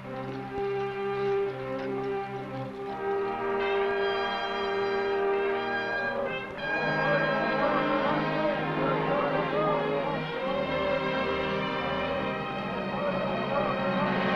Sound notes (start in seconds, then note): 7.9 men chanting